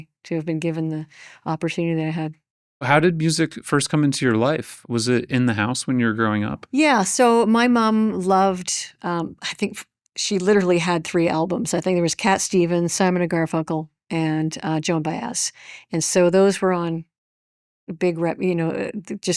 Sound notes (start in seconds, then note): none